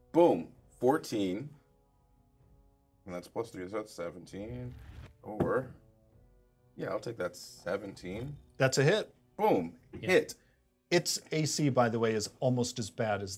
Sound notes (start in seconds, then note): none